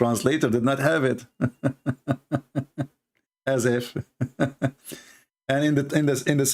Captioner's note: Ketawa